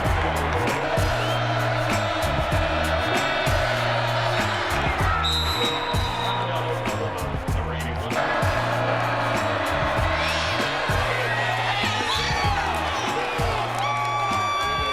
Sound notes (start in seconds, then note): 5.3 whistles